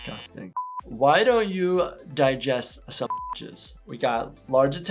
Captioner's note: beep